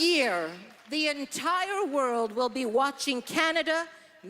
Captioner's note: applause